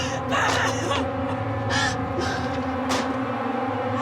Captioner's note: crying; dramatic music